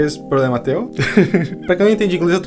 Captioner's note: laugh